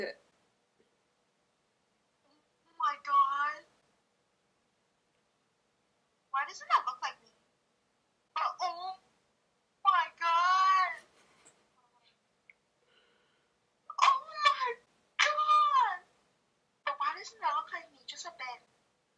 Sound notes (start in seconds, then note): 0.1 long pause; 4.0 another long pause